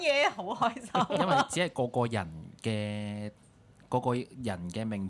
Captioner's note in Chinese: 眾人笑